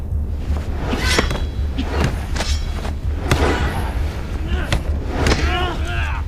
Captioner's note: whooshing; metal clinking